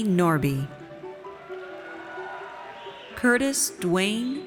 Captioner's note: audience cheers